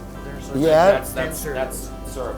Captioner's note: murmurs